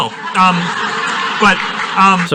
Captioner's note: audience laughs